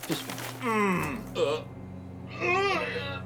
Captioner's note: Wally groans